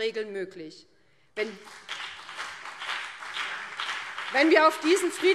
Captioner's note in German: Beifall BÜNDNIS 90/DIE GRÜNEN und CDU